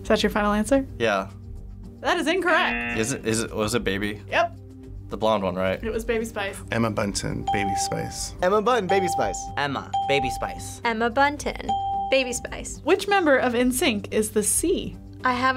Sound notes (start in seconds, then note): 2.6 buzzer rings; 8.9 bell rings; 12.3 bell rings